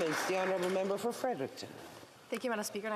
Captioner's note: some Applause